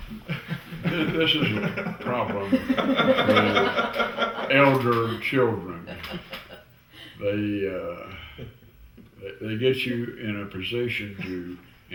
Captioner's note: laughter